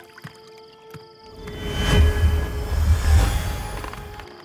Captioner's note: magical hum, ringing